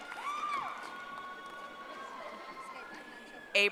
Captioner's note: audience applauding